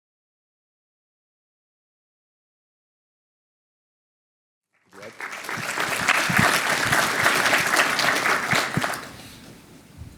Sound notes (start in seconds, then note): 7.3 applause